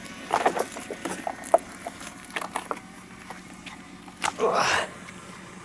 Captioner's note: chain clanking; engine idling